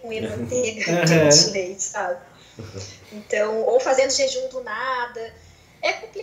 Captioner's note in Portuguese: risos